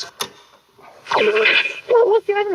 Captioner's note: tape rewinds